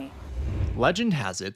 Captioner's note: screen whooshes